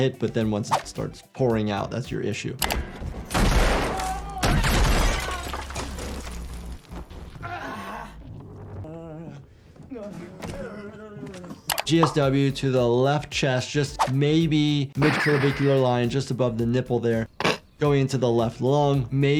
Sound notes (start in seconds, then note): 3.2 gun shoots